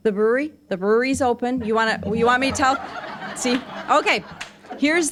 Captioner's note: audience laughing